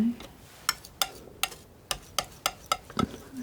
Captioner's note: tapping